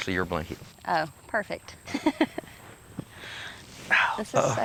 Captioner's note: laughs